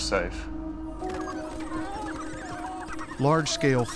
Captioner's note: dogs yipping